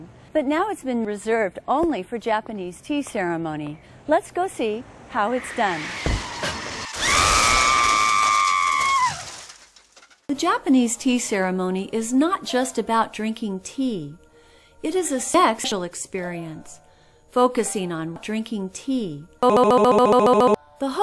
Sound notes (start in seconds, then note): 5.9 car crash and some bystander lady screams for her life; 14.4 audible breath